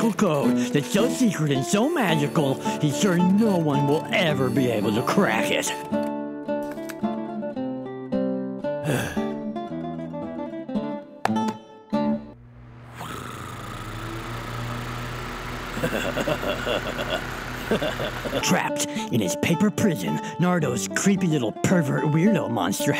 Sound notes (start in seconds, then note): 8.8 sigh; 15.7 giggling